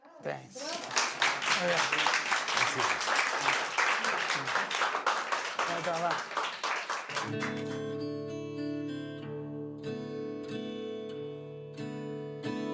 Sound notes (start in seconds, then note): 0.4 audience applauding; 7.2 light acoustic guitar music